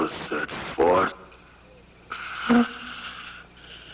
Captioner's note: labored breath